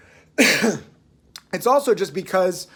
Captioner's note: clearing throat